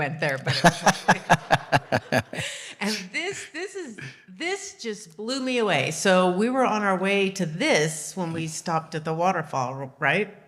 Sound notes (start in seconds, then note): 0.4 laughing